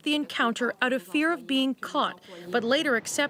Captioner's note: speaking French